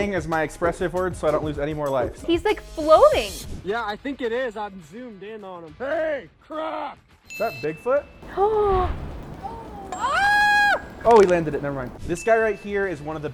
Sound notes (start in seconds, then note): 8.2 gasps; 8.2 squeals